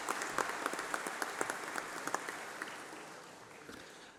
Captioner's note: applause